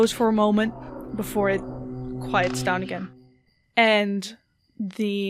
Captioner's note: buzzing sound stops